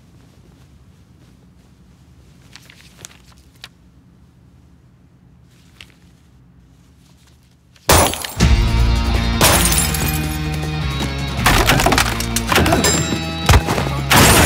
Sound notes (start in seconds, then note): 7.9 gunshot